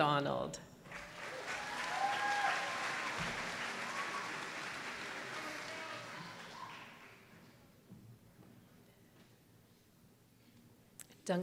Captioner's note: applause